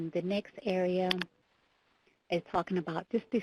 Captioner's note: keyboard clicks